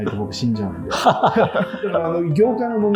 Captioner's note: laughing